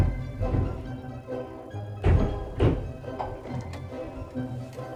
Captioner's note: banging in the background